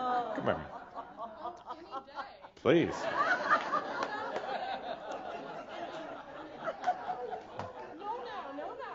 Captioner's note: more laughter as she comes up to the front